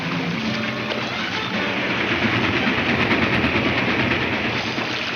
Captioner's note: train clatters